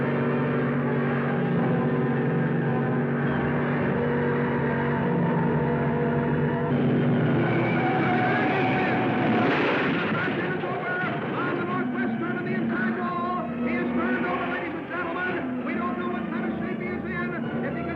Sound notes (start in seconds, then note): 8.0 tires squealing; 9.9 car crashing